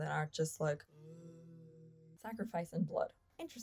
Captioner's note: ghostly moaning